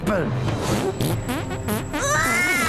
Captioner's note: farting